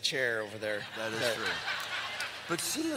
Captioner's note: laughter